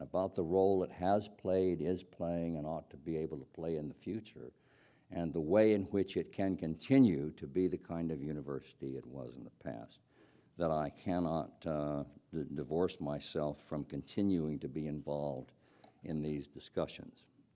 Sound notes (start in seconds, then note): none